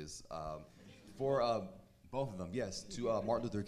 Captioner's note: audience laughing